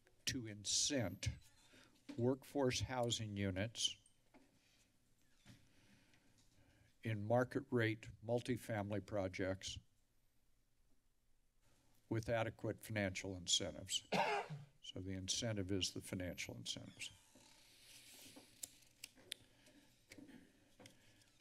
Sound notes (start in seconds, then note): 14.1 cough; 18.2 door opens